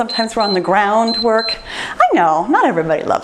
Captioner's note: timer beeps